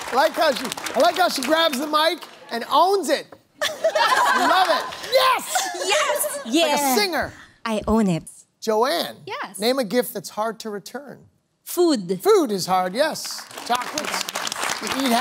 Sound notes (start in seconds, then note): 3.6 laughter